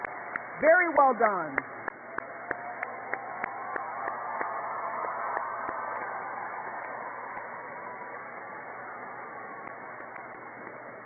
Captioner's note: cheers and applause